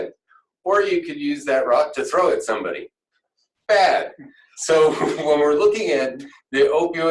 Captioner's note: laughter